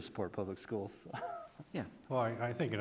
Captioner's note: laughs